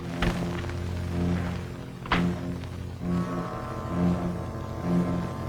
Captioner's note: car door banging; dramatic music